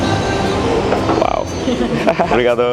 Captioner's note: laugh